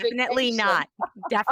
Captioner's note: laughs